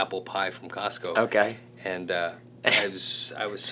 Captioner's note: laughs